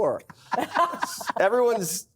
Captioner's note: laughs